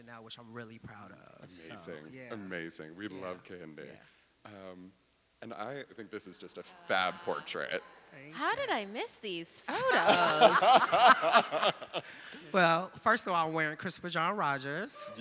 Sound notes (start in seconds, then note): 9.7 laughing